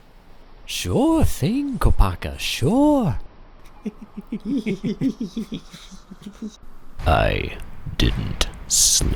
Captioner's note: Other Toa giggle